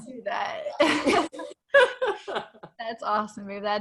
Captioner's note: both laughing